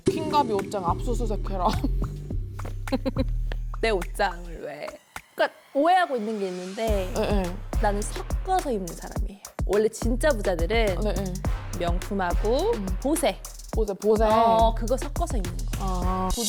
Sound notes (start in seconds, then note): 2.9 laughter